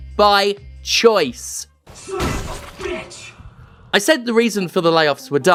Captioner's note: Stamping sounds as Isaac shouts